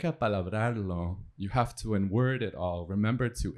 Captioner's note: spanish